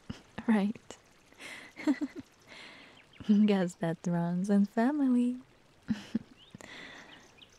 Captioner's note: chuckles